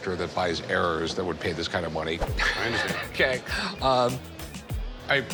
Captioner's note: Rick laughs